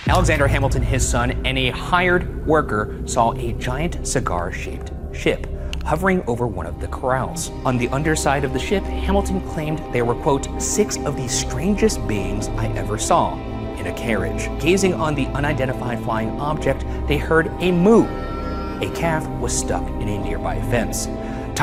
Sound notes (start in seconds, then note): 18.0 cow mooing